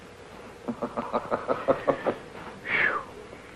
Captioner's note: George chuckling